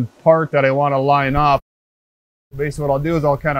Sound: engine noise

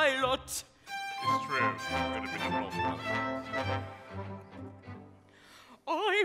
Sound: mutters

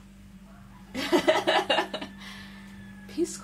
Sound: laughs

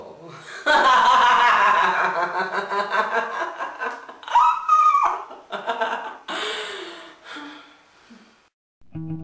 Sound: seductive cruel laughter

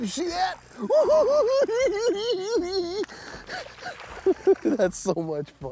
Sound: laughing

